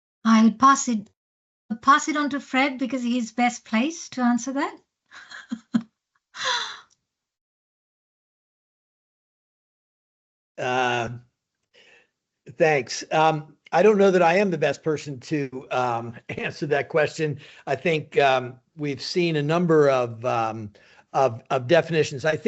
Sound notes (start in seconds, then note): 5.2 chuckles